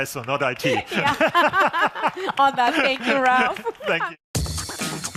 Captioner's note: laughs